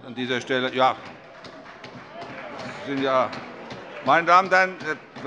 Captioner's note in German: Heiterkeit und Beifall